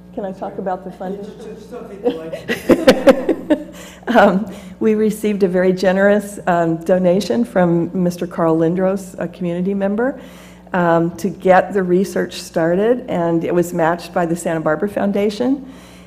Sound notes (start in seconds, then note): 1.7 laugh